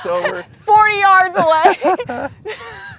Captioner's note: laughs